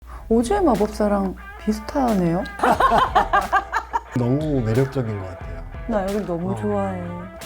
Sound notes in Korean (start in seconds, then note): 0.4 흥미로운 음악; 2.6 함께 웃는 소리